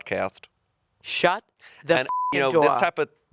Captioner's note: beep